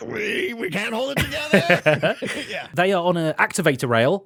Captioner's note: laughs